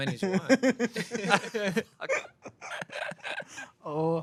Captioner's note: everyone laughs